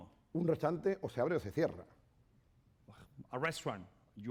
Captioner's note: speaking spanish